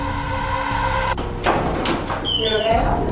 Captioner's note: door opens